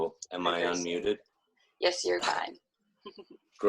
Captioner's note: chuckles